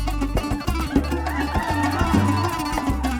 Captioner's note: audience cheering